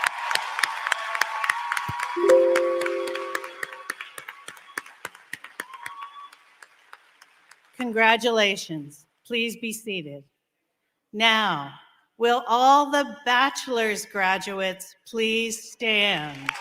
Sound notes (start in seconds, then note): 6.0 applause; 6.9 cheering